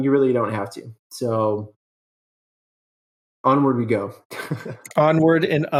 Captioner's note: laughs